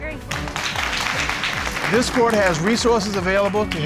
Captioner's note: audience applauding